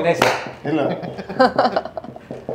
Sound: laughing

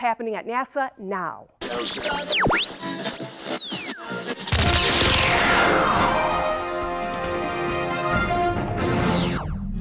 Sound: radio tuning sounds

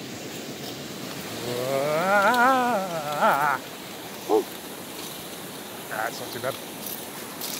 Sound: nervous noises

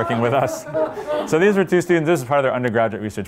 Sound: laughter

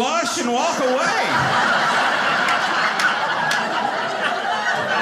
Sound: audience laughing

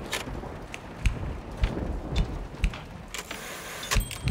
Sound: sounds of a typewriter and stormy weather

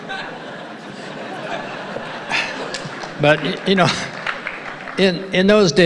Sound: laughs

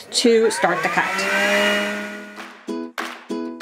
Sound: machine whirring; upbeat music

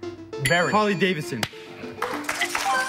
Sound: bell dings

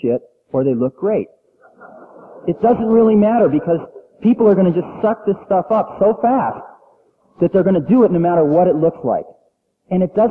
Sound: laughter

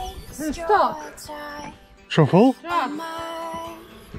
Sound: calls out

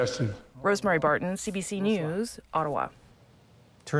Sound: speaking French

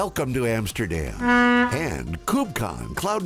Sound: ship horn blares

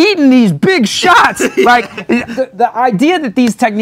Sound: laughs

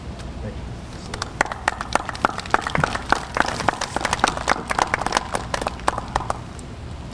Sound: applause

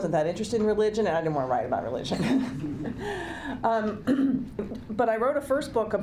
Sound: chuckling

